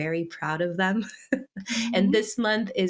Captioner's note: laughs